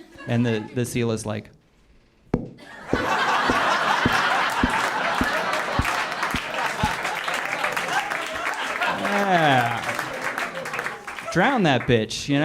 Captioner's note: clap